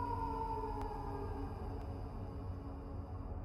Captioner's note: howl In Distance